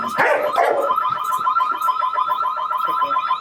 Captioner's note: barking